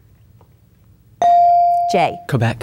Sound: bell dinging

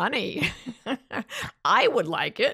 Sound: chuckles

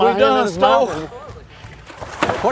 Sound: splashing

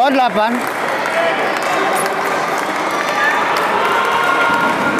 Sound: applause

